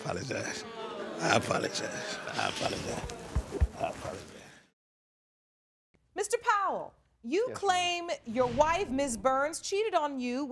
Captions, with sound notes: I apologize. I apologize. I apologize. I apologize. (AUDIENCE MOANING DISAPPROVINGLY) Mr. Powell, you claim your wife, Ms. Burns, cheated on you